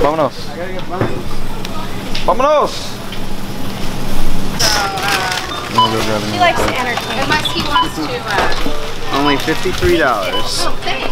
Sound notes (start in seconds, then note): 0.0 spanish; 2.2 spanish